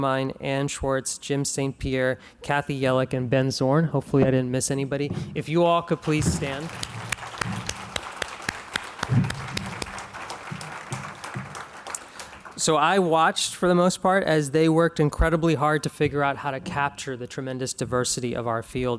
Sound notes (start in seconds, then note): 6.0 clapping